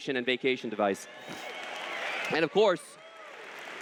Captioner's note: applause